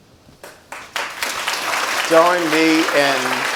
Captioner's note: audience applauds